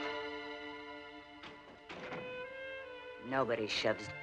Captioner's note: door Closes